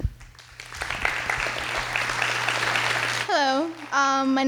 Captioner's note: audience clapping